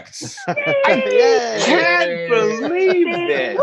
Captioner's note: group cheering